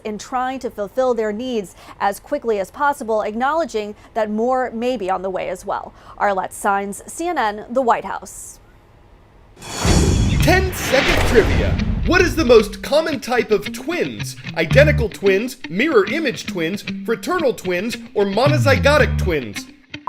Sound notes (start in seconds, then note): 9.2 voice-over